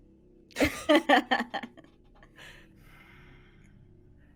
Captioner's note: laughs